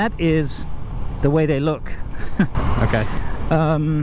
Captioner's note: chuckles